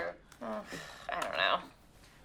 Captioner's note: sighs